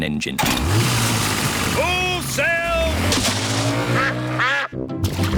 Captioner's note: engine starts